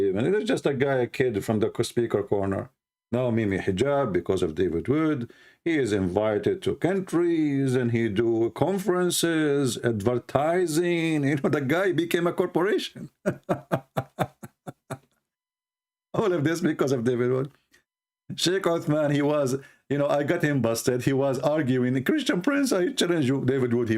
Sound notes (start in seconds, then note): 13.0 Ketawa